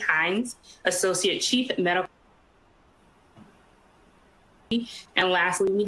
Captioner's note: audio gap